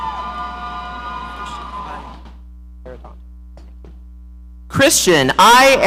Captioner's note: audience cheering